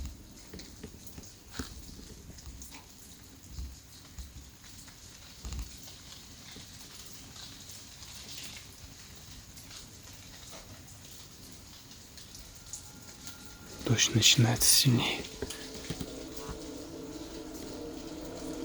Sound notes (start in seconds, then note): 1.4 noise rain; 15.3 mysterious music; 15.3 rain noise